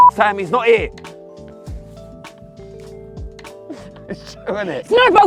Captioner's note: laughter